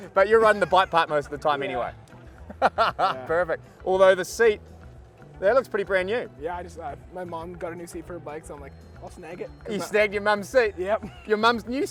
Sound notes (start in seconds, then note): 2.5 laughs